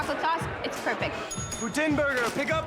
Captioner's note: bell rings